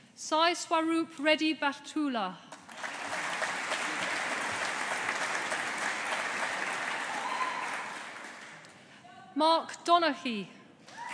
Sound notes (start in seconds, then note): 2.6 audience applauding